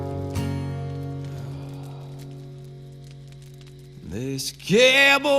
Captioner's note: sighs